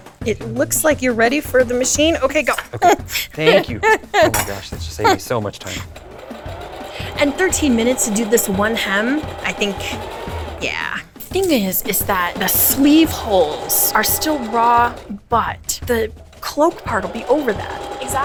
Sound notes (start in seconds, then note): 2.4 laughing; 6.0 sewing machine whirring